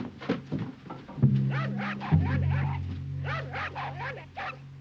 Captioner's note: jack barking